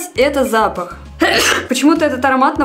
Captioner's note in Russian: Чих